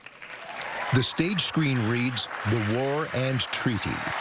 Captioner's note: cheering and applause